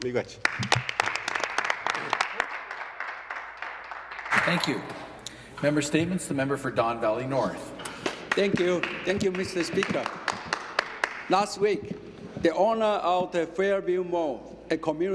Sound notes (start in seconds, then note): 4.5 some Applause